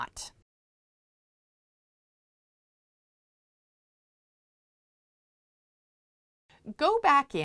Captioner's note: no Sound Present